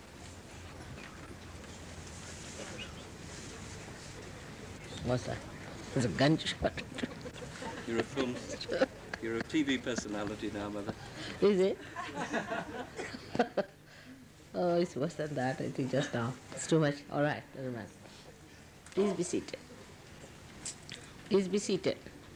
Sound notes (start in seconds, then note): 6.9 laughs